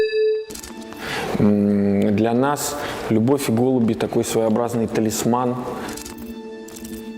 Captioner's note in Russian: звук помех